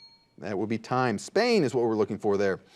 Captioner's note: bell dings